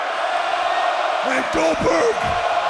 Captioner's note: crowd chants